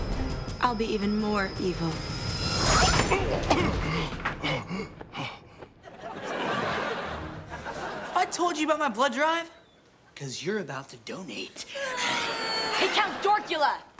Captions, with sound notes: I'll be even more evil. [grunting] [gasping] Have I told you about my blood drive? 'Cause you're about to donate. [whimpering] Hey, Count Dorkula!